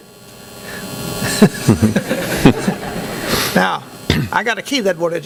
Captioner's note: laughing